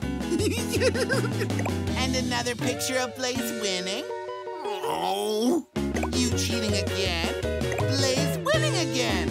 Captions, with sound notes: [giggling] And another picture of Blaze winning. [groaning] You cheating again. Blaze winning again.